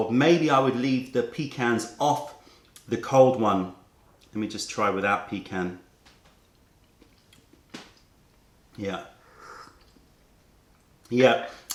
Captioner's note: sips tea